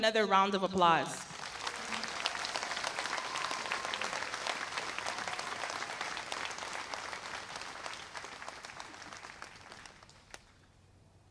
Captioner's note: applause